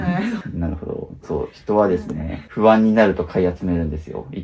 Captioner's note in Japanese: 咳払い